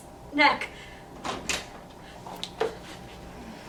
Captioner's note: door opening